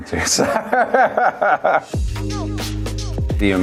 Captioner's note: laughs